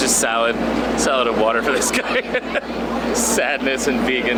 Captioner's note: laughs